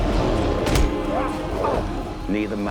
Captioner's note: Panther yells; panther grunts